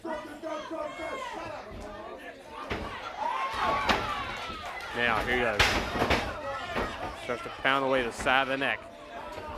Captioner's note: audience jeering